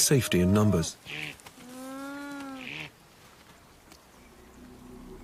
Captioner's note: bleating and groaning